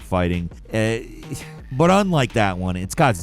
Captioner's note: sighing